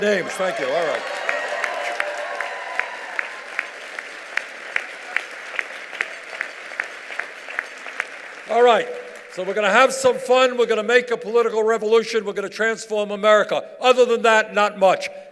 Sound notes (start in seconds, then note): 0.0 cheers and applause